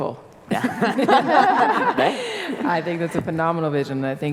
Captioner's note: laughter